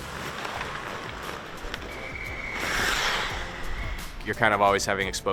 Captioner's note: skates skidding on ice